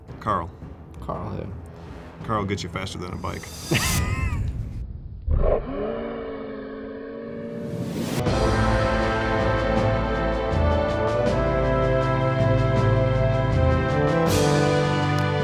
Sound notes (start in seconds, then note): 3.7 laughs; 5.4 laughs in slow motion; 7.2 dramatic music